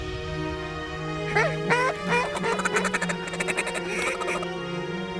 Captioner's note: duck calls